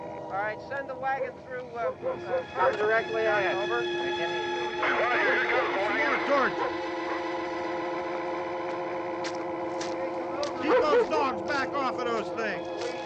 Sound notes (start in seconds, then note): 4.6 various voices on police radio; 9.2 footsteps